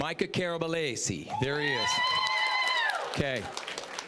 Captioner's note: cheering, applause; applause